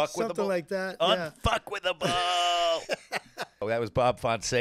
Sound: laughing

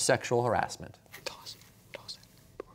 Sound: whispering

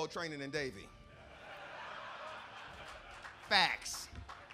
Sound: laugh

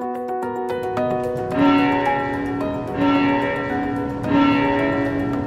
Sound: church bell ringing

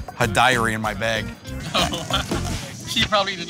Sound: laughing

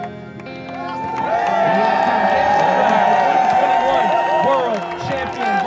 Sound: crowd cheering

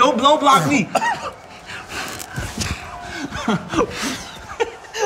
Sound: both blowing

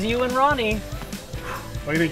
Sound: sighs

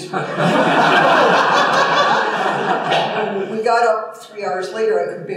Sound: laughter

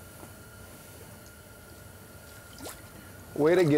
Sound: splashing

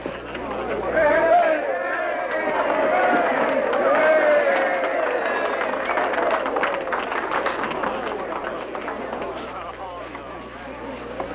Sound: cheering

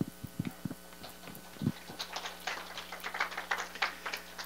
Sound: audience applause

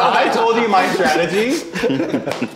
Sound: laughing

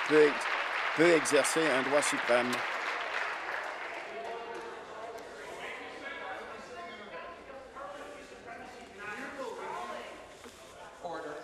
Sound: applause

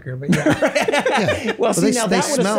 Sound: all laugh

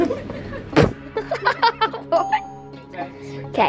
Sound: laughter

